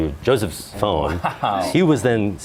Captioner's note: chuckles